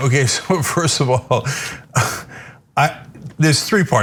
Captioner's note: laugh